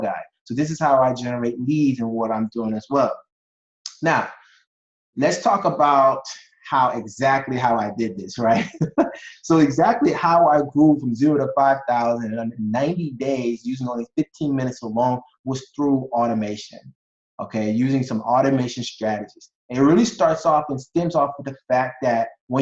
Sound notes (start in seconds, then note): 8.3 chuckling